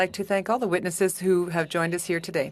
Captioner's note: speaking french